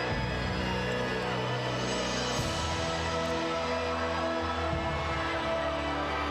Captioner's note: crowd cheering continues; somber music continues